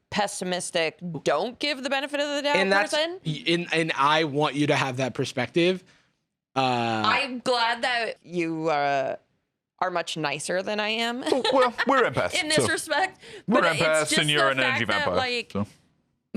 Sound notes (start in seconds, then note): 11.2 laughs